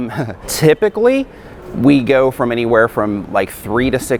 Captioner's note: laughs